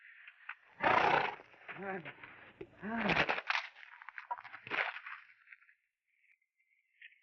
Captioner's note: horse snorts; Joshua grunts